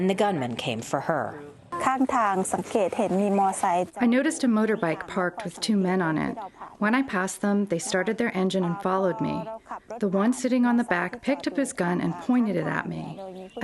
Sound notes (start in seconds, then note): 2.7 through translator